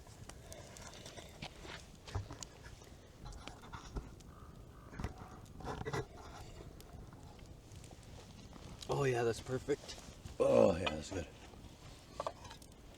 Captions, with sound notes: *slurps* "Oh yeah, that's perfect" "Oh yeah, that's good"